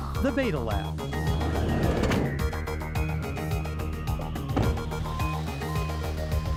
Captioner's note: van door closes; van pulls away